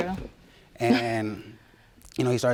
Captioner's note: chuckles